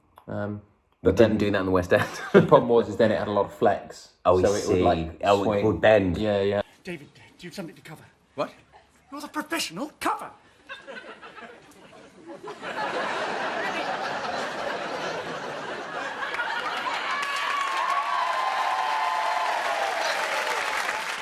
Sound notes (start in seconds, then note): 10.6 laughs; 15.8 applause